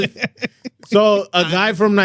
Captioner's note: speaking In Foreign Language